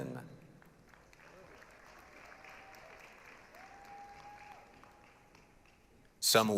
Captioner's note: applause, cheering